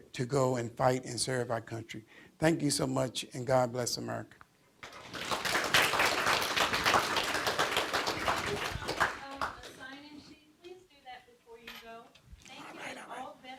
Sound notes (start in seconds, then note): 4.8 audience applause